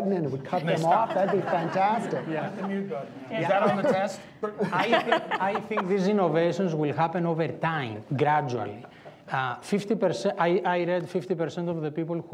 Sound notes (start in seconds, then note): 2.9 laughing